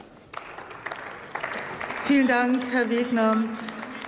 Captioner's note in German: Applaus